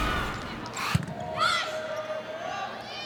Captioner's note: ball thumping